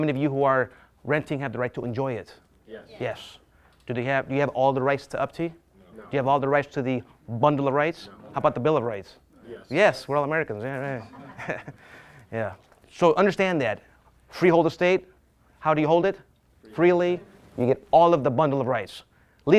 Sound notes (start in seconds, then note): 10.8 laughs